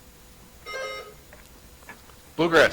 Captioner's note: buzzer chimes